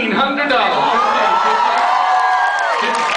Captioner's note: cheers